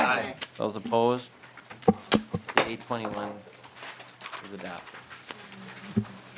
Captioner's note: chorus of ayes